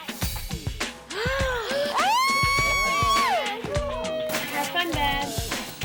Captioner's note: gasps; screams